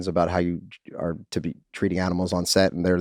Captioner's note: none